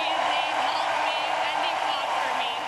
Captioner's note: cheers and Applause